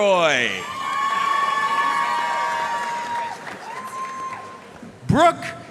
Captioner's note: audience cheering and applauding